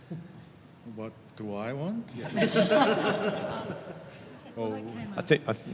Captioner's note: laughs